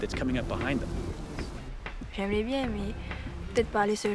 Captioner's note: woman speaking french